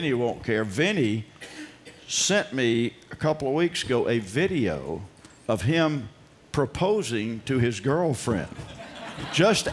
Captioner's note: laughter